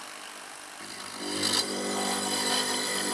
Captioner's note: humming buzz